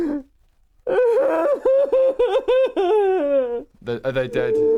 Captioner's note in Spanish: llanto incontrolable